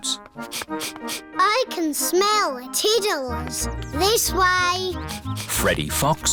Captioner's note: sniffs